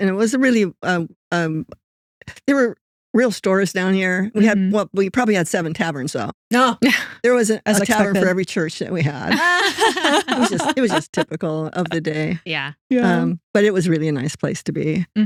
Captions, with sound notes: And it was a really, there were real stores down here. We had what, we probably had seven taverns though. There wasn't a tavern for every church that we had. (Both Laughing) It was just typical of the day. But it was really a nice place to be.